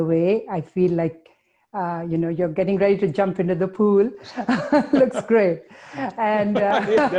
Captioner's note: laughing